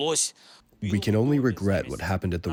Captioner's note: through translator